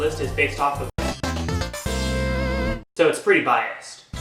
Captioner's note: nostalgia noises